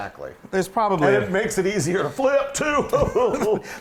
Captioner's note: laugh